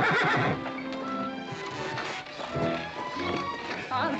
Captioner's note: horse neighing; carriage creaking